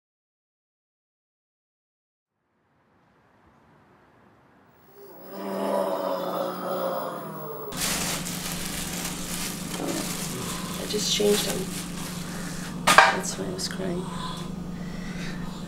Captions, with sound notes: (groaning noise) (paper sound) aaah - I just changed him, that's why he was crying